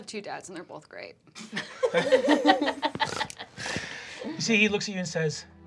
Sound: group laughing

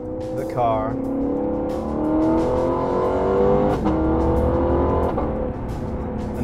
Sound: engine sounds

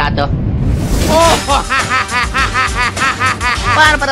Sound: evil luigi laugh

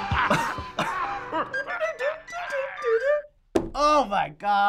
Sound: chuckling; pirate guffawing; mimicking flute

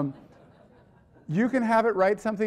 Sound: audience laughing

